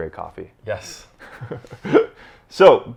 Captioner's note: laughing